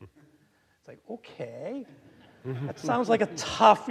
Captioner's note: audience laughing